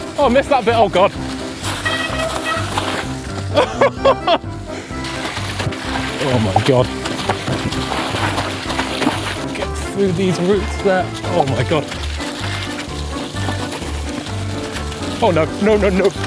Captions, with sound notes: Oh I missed that bit, oh god. (tires screeching) (laughs) Oh my god. Get through these roots there. Oh my god. Oh no, no, no no.